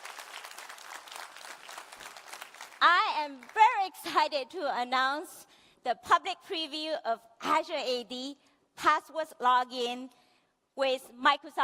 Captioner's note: applause